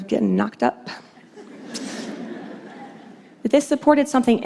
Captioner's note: laughter